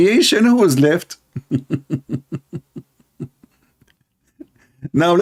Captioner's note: Ketawa